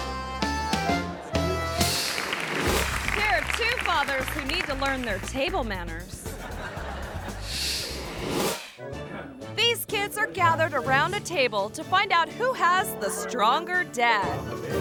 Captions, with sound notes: (audience applauds) Here are two fathers who need to learn their table manners. (audience laughs) These kids are gathered around a table to find out who has the stronger dad.